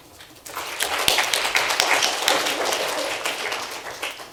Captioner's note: applauding